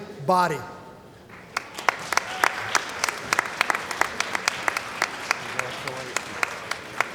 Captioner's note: applause